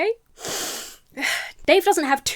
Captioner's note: inhales sharply